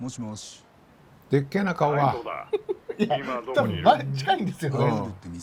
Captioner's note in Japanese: 笑い